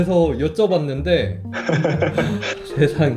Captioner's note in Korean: 웃음